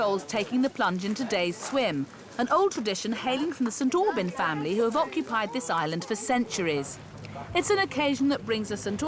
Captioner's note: none